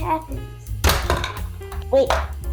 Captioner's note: bonk!